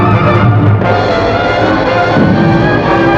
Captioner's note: gunfire